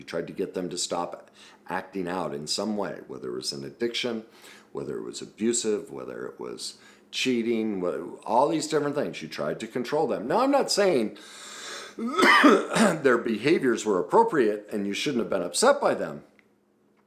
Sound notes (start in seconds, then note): 11.8 coughs